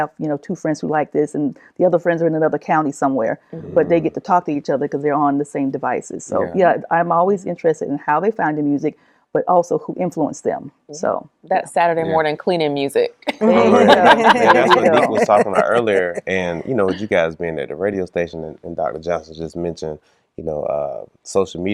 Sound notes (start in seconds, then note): 13.3 laughing